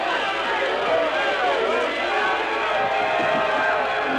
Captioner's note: yelling